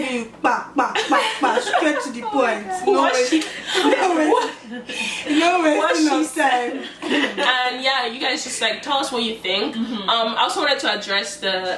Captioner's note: laughter